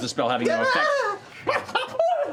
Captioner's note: yips; yelps